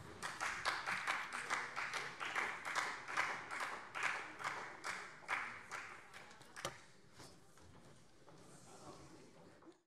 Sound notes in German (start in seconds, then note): 0.0 Beifall Freie Demokraten